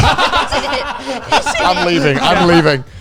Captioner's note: everyone laughing